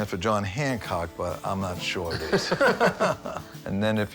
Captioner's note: both laugh